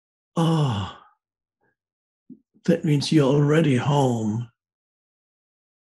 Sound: sighs

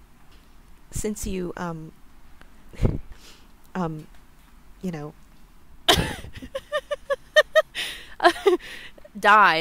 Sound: LIZA laughs

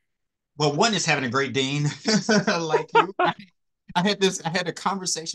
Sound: laugh

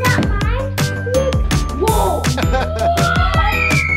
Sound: family laughing

